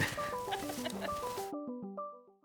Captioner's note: mocking laughter